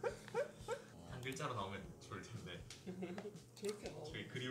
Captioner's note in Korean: 웃음; 웃음